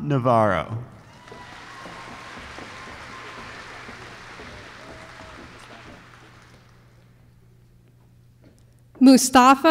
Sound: applause

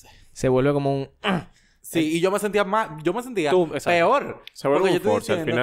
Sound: urgh

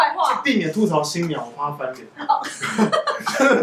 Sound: laughing

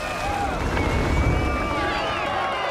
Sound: cheering

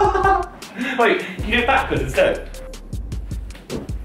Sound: laughs

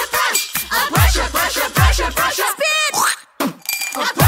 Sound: spitting sound

